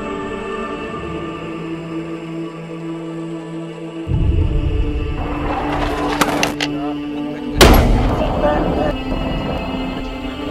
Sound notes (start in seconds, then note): 5.6 explosion; 7.6 gun shot